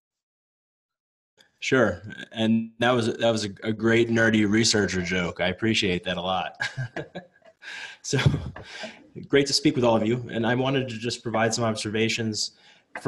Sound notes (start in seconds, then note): 6.6 chuckles softly